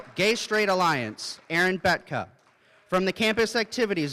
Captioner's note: applause